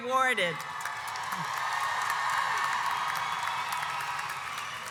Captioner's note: audience applauds